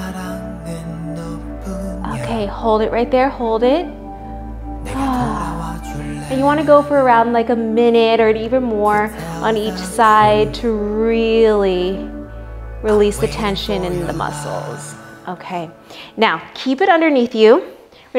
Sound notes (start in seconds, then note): 4.9 sighs